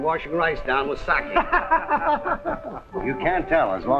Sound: guffaws

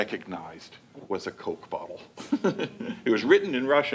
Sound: laughing

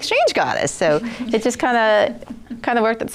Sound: laughter

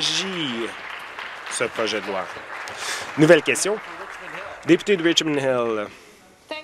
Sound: applause

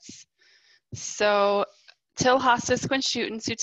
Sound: speaking in foreign language

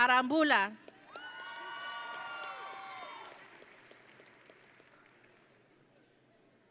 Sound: audience and graduates cheering

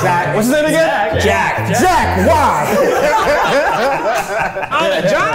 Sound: all laughing

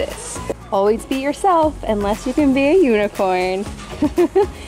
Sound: chuckling

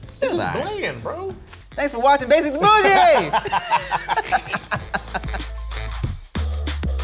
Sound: laughing

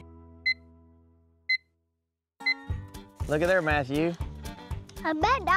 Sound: beeping

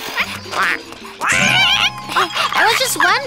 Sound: duck screams

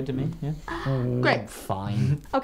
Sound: gasps

